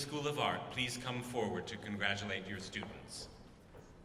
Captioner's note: none